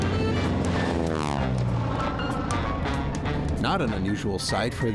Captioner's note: sound of airplane